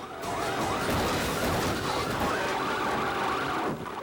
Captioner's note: car crashes